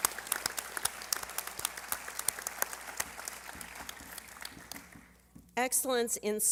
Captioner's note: applause